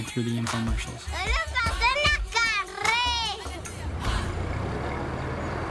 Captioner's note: speaking foreign language